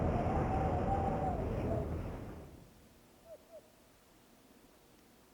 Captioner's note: wind noise; bird hoots